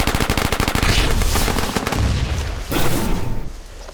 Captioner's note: explosions